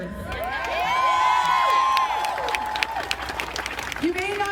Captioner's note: crowd cheering and applauding